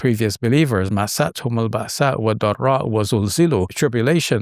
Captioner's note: speaks Arabic